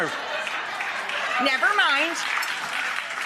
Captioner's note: audience cheering